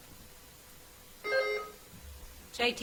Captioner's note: bell ringing